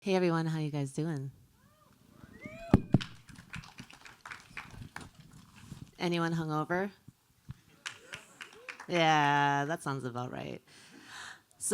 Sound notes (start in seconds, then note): 2.2 crowd cheers; 2.9 applause; 7.5 mild applause